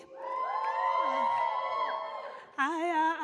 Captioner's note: audience cheers